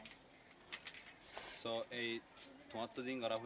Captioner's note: sniffles